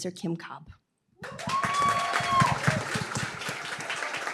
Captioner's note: applause, cheering